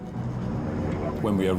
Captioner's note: boat droning; intense music